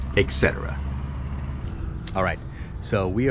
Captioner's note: street noise